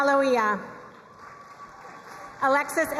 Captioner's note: crowd cheering and applauding